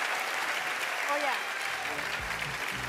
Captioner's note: applause